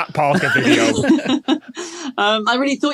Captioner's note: laugh